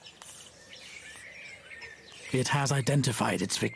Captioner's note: snake hissing